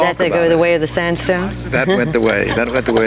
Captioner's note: laughs